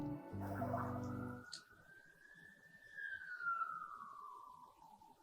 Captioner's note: emergency sirens blaring